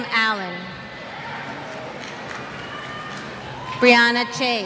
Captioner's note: cheers